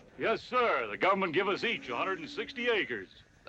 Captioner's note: none